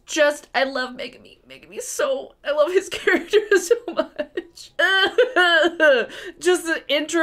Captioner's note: sobbing